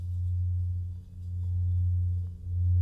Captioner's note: droning